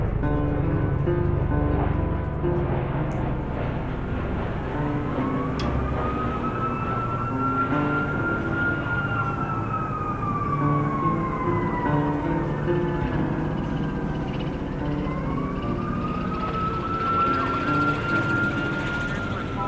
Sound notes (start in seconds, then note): 5.6 sirens; 13.3 helicopters; 16.4 sirens